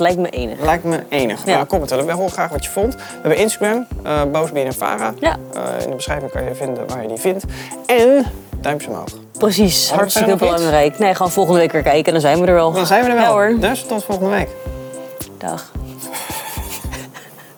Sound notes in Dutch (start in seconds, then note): 16.0 lachen